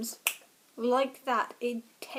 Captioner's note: snaps fingers